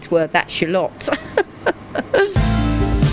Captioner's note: laughs; upbeat music